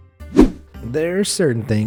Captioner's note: air whooshing